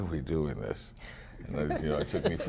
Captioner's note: laughter